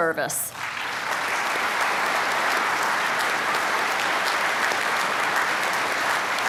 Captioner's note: applause